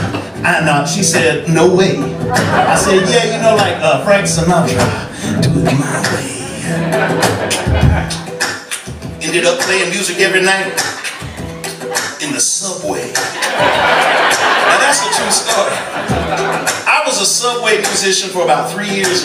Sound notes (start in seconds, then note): 2.4 crowd laughing; 7.1 vocal percussion; 13.0 crowd laughing